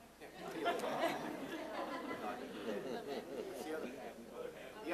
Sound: audience laughing

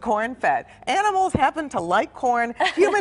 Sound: laughter

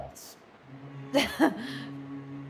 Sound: Mirielle laughs

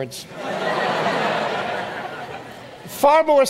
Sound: audience laughs

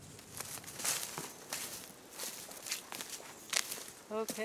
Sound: leaves crunching underfoot

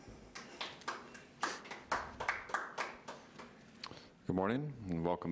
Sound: audience applauds

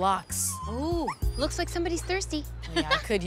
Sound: dog whines; laughs

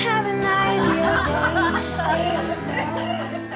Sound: laughing

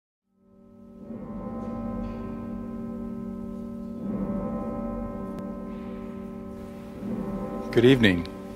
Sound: church bells

